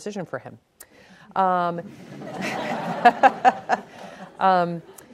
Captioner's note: laughing